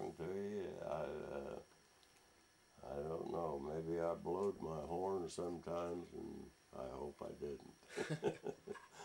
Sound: laughs

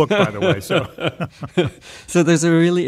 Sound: laughter

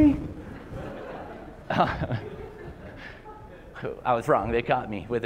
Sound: laughter

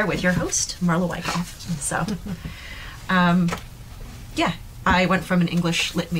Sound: Samantha laughing

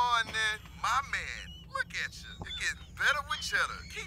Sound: talking normally

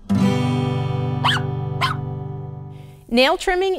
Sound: dogs barking

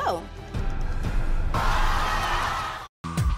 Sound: audience cheering

